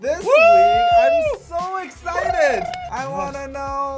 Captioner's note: brrrrrr